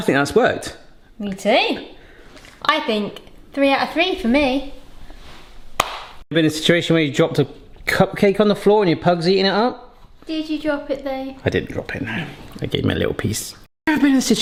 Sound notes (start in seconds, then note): 5.8 high five slaps